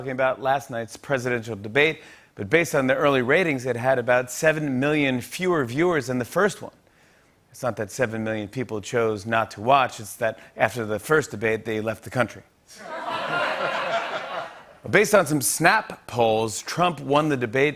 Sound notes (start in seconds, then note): 12.8 laughter